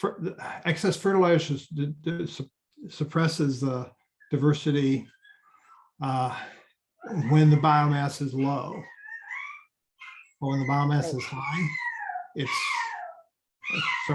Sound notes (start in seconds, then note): 9.4 dog barking; 12.6 dog barking